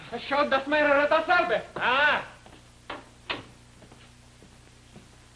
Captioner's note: speaks German